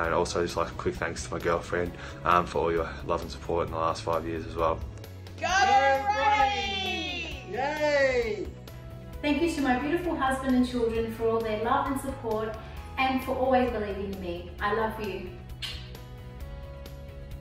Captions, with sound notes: I'd also just like a quick thanks to my girlfriend for your love and support in the last five years as well. (people cheering) - Thank you to my beautiful husband and children for all their love and support and for always believing in me. I love you.